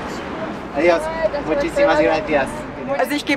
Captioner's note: in Spanish